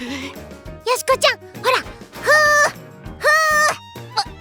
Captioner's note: blowing sound